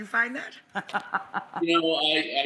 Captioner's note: laughing